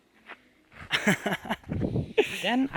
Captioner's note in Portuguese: risos